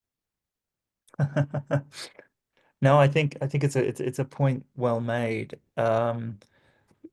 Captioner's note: laughs